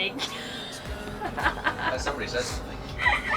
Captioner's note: laughing